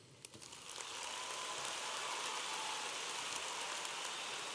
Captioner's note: audience applauding